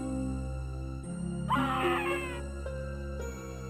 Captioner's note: sound of a frightened scream is heard